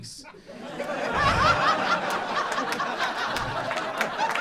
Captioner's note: crowd laughs